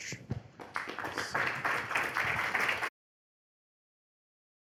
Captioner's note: audience clapping